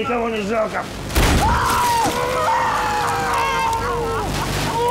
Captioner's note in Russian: выстрел, крики